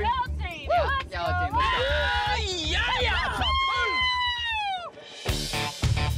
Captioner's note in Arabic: الجميع يهتفون